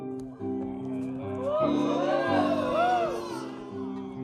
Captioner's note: hooting